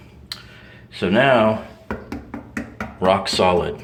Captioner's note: knocks on tile